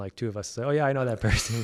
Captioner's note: laugh